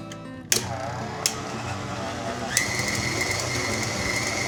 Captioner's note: stand mixer whirring